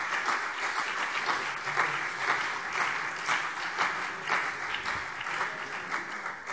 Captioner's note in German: Beifall CDU und BÜNDNIS 90/DIE GRÜNEN